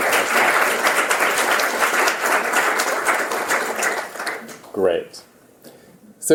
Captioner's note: applause